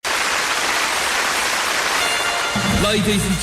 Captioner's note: applause